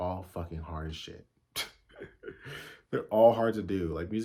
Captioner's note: laughs out of exhaustion lmao